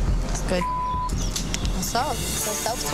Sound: beep

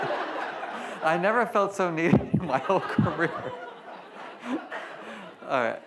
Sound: laughs; laughs

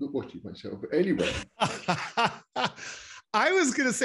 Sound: laughing loudly

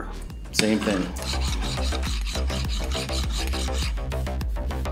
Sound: metal lightly scraping metal

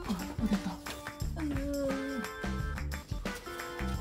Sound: <= sound of applying tape

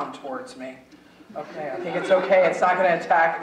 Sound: audience chuckling

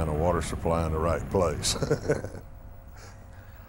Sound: chuckles

